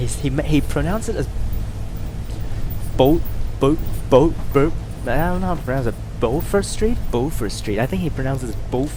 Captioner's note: with a french accent?